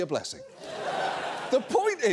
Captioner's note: audience laughs